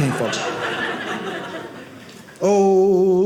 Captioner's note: audience laughing